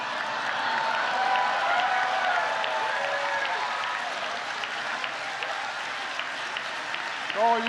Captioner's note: laughter and applause